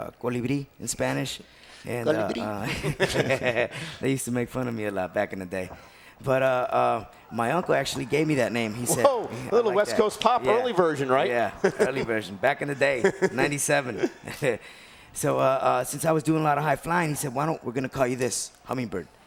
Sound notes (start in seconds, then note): 2.1 laugh; 14.3 laugh